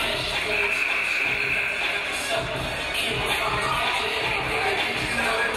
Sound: game buzzer buzzes

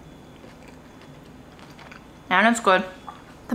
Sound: food squishing

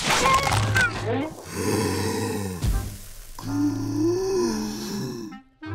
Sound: growling

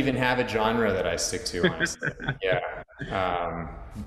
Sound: laughing

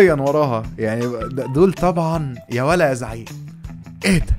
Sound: mocking

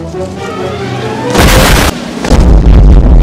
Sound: explosion

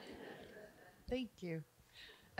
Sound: audience giggling

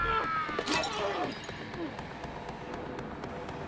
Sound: clattering

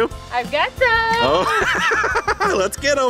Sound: dad laughs

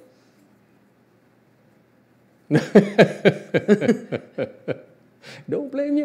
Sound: laughs

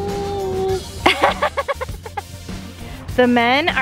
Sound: laughing

